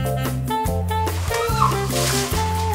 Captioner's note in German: Sie quietscht